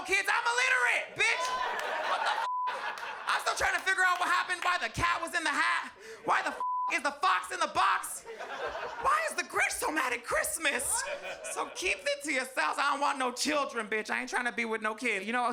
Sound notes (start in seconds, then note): 2.4 beep; 6.6 beep